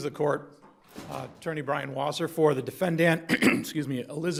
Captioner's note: clears throat